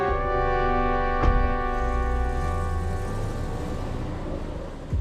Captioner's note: dramatic music; engine rumbling